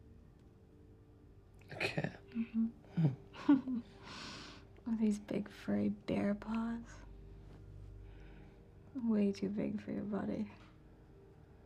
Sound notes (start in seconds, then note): 3.3 chuckles